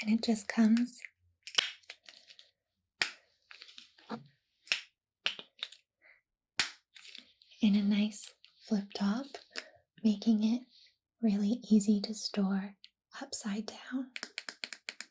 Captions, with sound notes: and it just comes (lid snapping) in a nice flip top making it really easy to store upside down